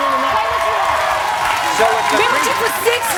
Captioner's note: audience cheers